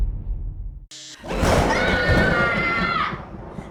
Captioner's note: screaming